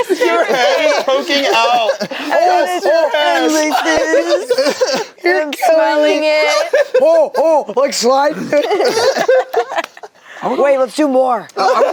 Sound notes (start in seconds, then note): 8.7 group laughs